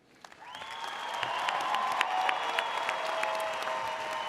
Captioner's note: audience cheers